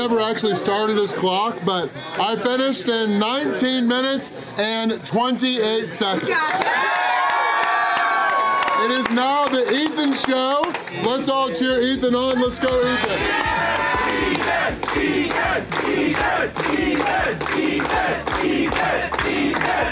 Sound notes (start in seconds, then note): 7.2 clapping; 14.2 crowd